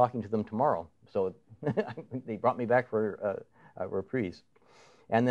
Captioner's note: chuckles